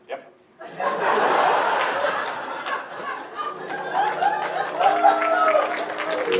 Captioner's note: audience laughter